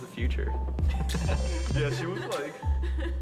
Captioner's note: man laughing